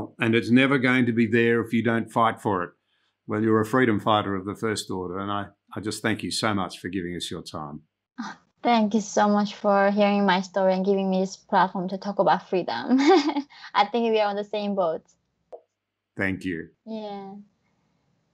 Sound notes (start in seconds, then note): 12.9 laughs